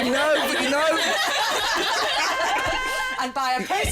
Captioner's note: laughter